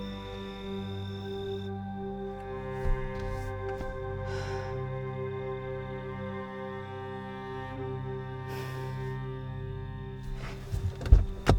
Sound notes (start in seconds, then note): 0.1 pensive music continues; 4.3 Rachel sighs